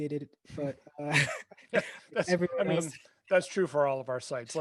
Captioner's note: laughs